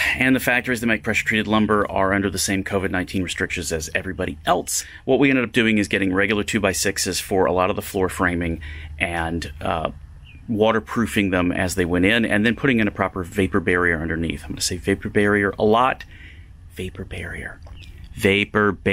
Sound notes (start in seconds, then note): 16.6 whispers